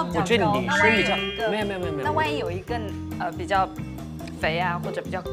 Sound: arguing

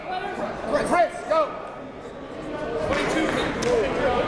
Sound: crowd talking

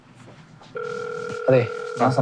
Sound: phone ringing

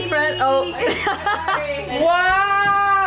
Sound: laughs

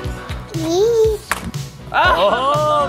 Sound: knee pads clacking

